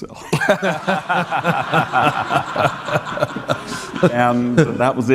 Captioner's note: audience laughing